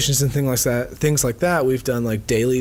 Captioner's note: none